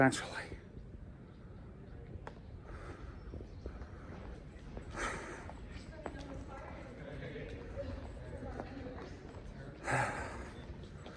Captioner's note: heavy breathing slows down